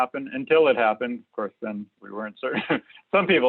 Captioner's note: laughs